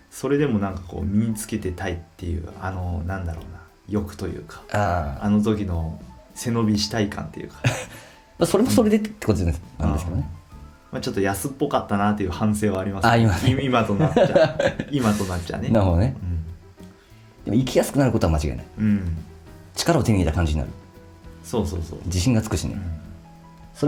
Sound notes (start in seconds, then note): 13.4 laughs